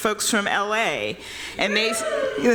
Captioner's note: cheering